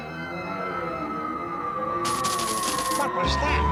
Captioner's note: coins jingle